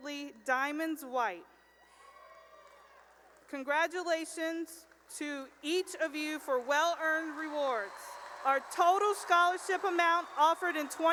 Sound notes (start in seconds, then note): 1.6 cheering and applause; 5.4 cheering and applause